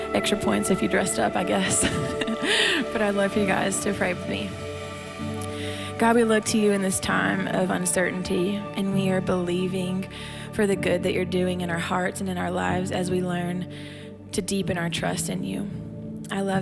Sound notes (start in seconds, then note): 1.6 laughs